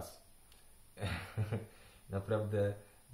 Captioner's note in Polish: śmiech